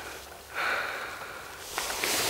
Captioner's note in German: Seufzen